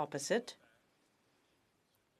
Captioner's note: speaking French